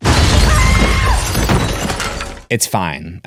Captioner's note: screams